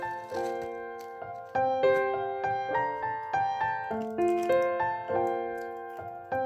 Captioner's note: chewing nachos